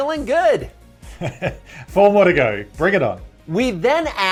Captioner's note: laughing